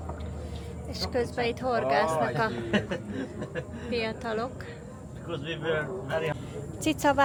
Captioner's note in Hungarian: nevetés